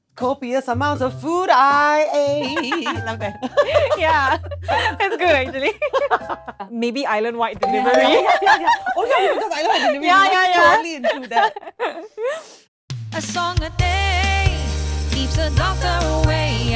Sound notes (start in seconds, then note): 2.1 laughs; 5.9 both laugh; 8.4 cackles